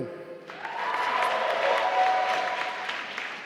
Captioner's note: applause